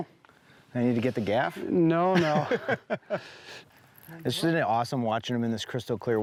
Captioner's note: laughs